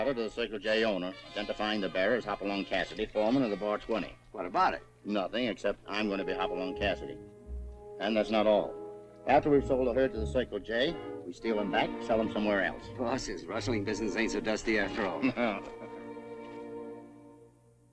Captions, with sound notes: identifying Hopalong Cassidy, foreman of the Bar 20. What about it? I'm going to be Hopalong Cassidy. And that's not all. After we've sold the herd to the Cycle J, we steal them back, and sell them somewhere else. Rustling business ain't so dusty after all. [ LAUGHS ]